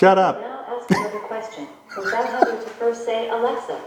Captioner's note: laughing